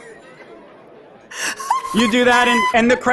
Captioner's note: laughs